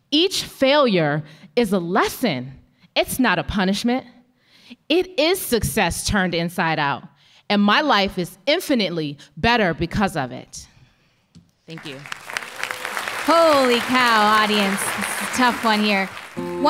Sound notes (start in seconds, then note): 11.7 applause